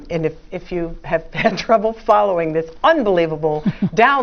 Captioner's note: laugh; laugh